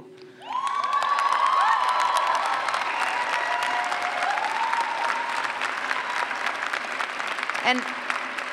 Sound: cheers and clapping

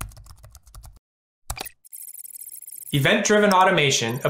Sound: keyboard typing; electronic beeps

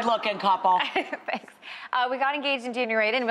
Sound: laughs

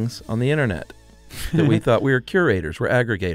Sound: chuckles

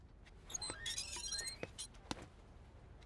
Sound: door opens

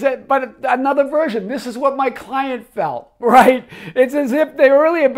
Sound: laughs

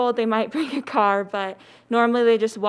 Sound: laughs

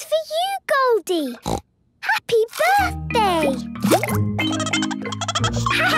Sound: snorting; Goldie giggling

